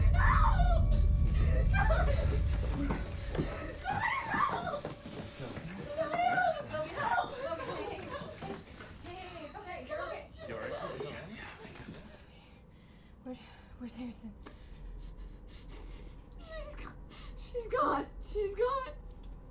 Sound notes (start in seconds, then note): 16.4 crying